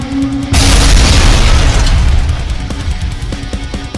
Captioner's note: tentacle beast blares; ground crashes